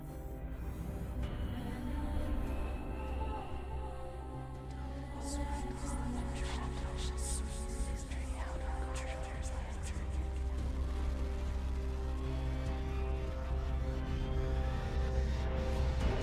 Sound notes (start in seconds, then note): 2.0 ominous music; 5.6 woman whispering; 13.5 ominous music